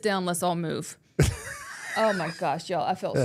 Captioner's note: Mark laughing